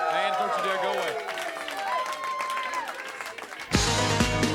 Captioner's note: crowd cheering; upbeat music